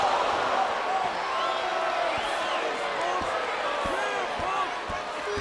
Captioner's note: crowd boos